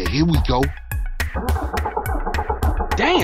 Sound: attempting to start car's engine

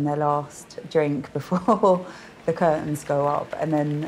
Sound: laughing

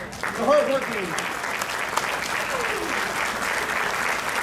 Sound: crowd clapping

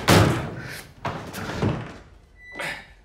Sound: punching door; door closing; door opening

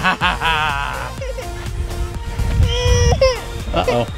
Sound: dad laughing; crying

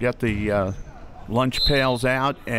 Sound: whistle

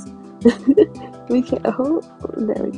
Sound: laughs

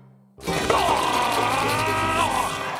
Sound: gagging

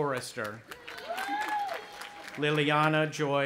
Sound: cheering

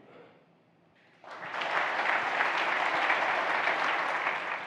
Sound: audience clapping

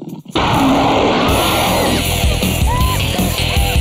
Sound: roar; growling; dramatic music

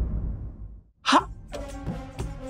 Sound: stammers

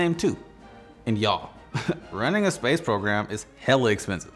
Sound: chuckles

